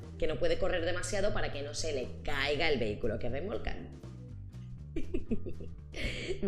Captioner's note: laughs